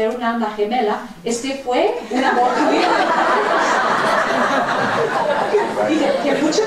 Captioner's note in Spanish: Risas